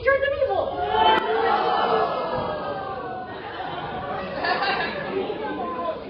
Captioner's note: "oh no" noises